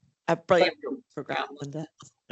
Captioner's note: audio distorts 58.36